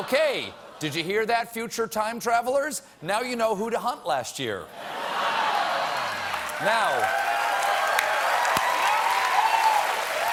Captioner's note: cheers and applause